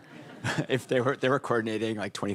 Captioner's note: audience laughing